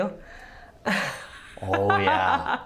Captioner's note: laughs